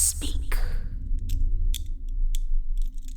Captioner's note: clicking of restraints